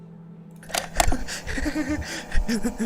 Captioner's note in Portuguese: risada trêmula